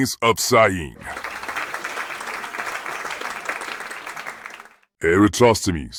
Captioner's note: quiet clapping